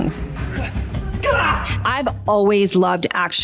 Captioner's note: man grunting